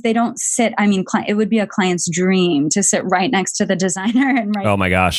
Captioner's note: laughs